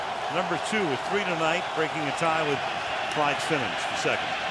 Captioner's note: crowd cheering